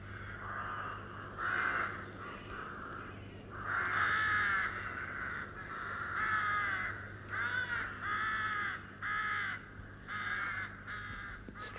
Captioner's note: crows caw